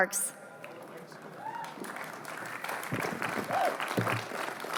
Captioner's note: applause